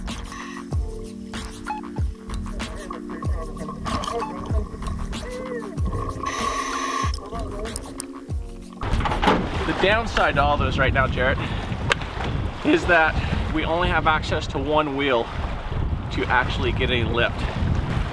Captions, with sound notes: - Hey look, there's Jonathan. Hey Jonathan. - Hey. (truck door closes) - The downside to all this right now, Jarret, is that we only have access to one wheel to actually get any lift.